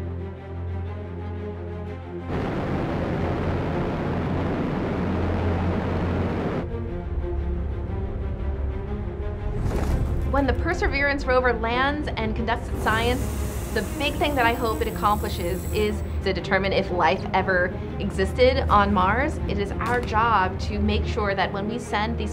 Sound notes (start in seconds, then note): 0.3 dramatic music; 2.3 rocket firing